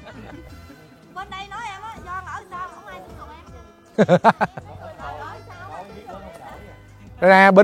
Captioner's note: chatting